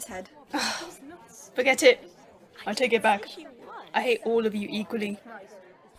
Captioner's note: sighs